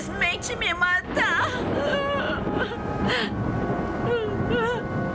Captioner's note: sobbing